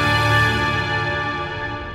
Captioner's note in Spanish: none